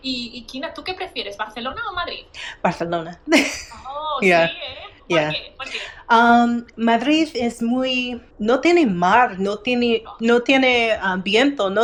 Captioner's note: speaking in foreign language